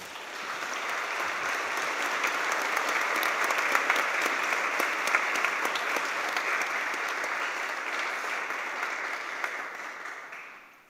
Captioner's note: applause